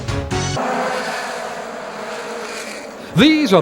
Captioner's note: engines whine